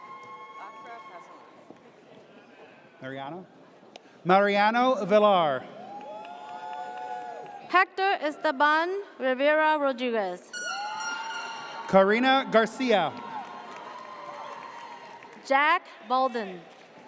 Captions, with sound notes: (audience cheers) - Mariano? Mariano Vilar. (audience cheers) - Hector Esteban Rivera Rodriguez. (air horn blares) - Corina Garcia. (audience cheers) - Jack Bolden.